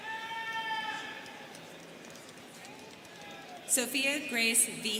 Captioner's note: students cheering